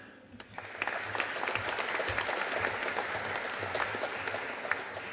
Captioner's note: audience applauding